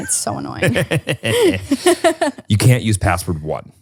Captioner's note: laughs